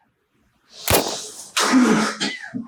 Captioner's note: gun shot